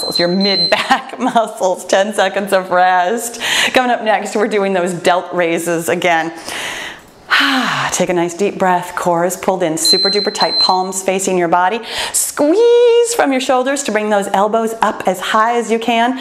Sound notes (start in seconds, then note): 1.4 laughs; 6.4 exhales; 9.8 timer beeps